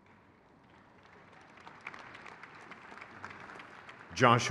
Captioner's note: crowd cheers